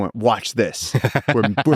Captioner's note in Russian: Lex смеётся